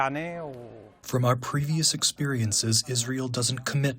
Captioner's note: through translator